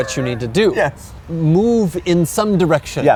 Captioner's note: laughing